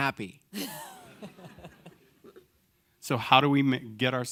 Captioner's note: audience laughing